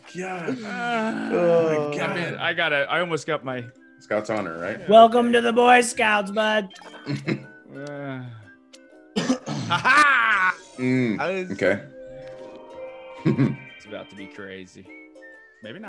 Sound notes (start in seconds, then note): 9.1 cough